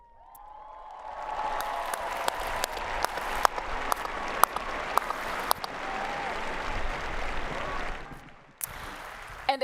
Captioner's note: applause and Cheering